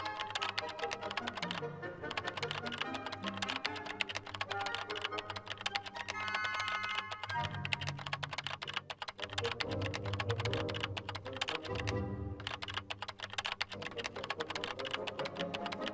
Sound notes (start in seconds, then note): 9.1 keyboard clicking